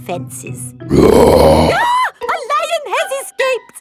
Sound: roars; screams

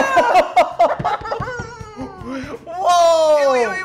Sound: laughs; both laugh; hand taps

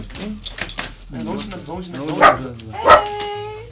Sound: puppy barks

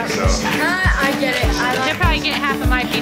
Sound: laughs

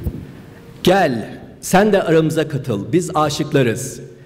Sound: speaking turkish

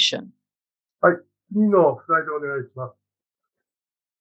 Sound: speaking japanese

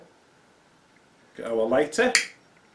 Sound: lighter noises

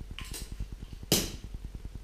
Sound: pop

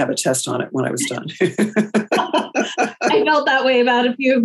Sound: both laugh

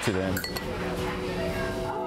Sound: glasses clinking

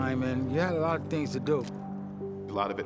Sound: camera shutter clicks

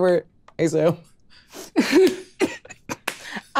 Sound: cast laughs

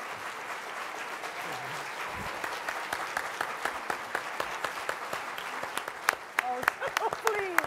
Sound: applause

